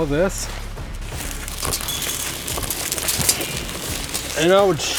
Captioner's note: wires rustling